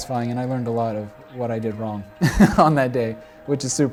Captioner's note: laughs